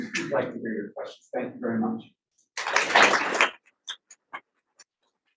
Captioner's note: audience applauds